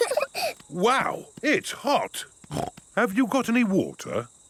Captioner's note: laughing; snorts